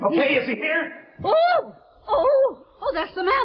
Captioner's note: Veta shreiks